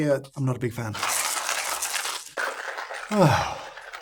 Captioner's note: coffee grinding